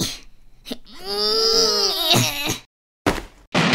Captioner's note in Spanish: Pujido; Estruendo